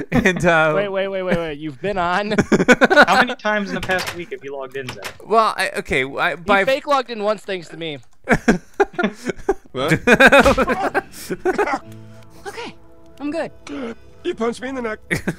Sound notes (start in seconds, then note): 0.7 voiceover; 6.9 voiceover; 9.8 laughs; 10.6 punch; 15.1 laughs